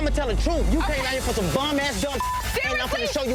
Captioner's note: beep